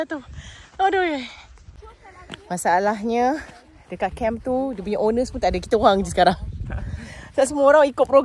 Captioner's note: sigh